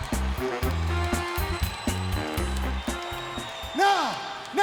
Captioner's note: crowd cheering